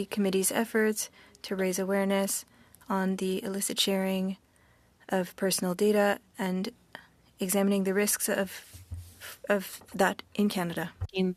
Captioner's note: speaking French